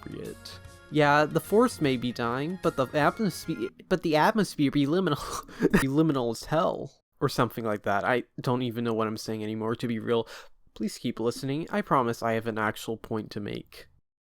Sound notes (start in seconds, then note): 5.6 laughing